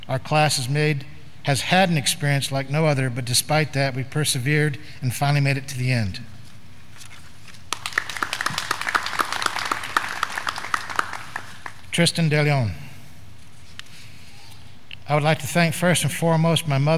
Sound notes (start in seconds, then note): 7.6 graduands clapping